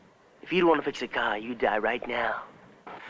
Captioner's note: none